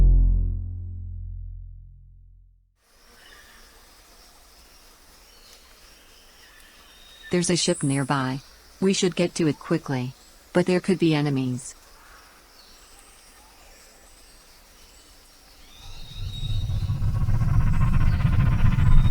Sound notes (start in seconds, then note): 2.9 birds chirping; 2.9 bugs buzzing; 15.8 aircraft whirring